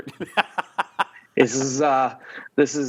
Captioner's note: both laugh